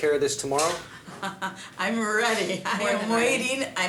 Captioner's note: laughing